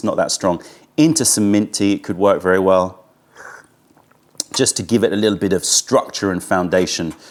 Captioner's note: sips tea